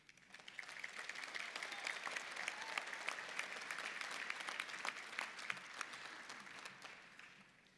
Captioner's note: applause